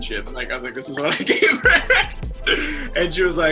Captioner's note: laughs